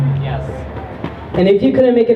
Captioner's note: crowd member says "yes"